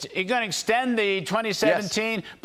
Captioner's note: laughter